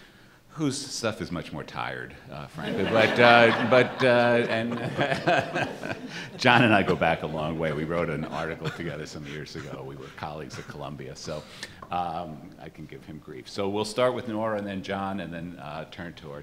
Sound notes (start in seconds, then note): 2.6 laughter